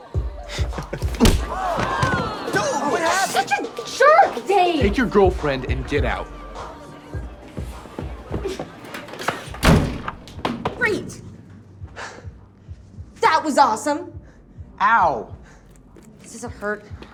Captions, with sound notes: - [crowd groans] - Dude, what happened! - You're such a jerk, Dave! - Take your girlfriend and get out. [door slams] - Great. That was awesome. - Ow. - Does it hurt?